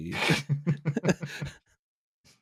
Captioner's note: laughter